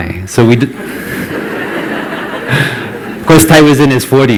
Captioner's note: laughter